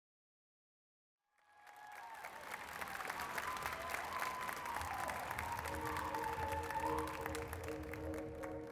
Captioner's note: applause